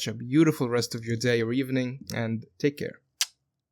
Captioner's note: smooch